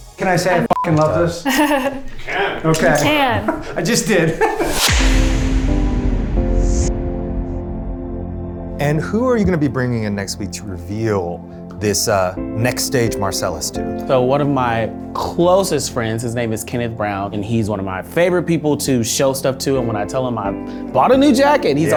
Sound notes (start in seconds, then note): 3.0 laughs; 5.5 mellow music